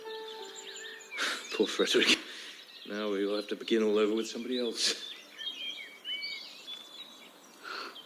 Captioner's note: exhale